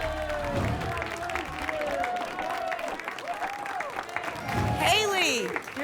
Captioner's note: applause and cheering cont